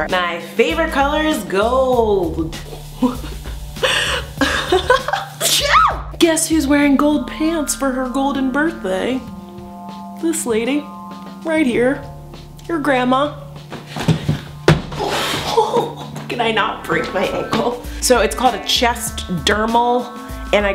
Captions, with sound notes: I’m 5’10” but I wish I was taller. My favorite color is goooold! Woosh! (giggling) Woosh! (sneezing) Guess who’s wearing gold pants for her golden birthday? This lady. Right here. Your grandma. Can I not break my ankle? So it’s called a chest dermal.